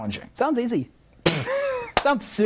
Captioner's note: laughing